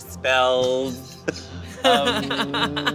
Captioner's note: all laugh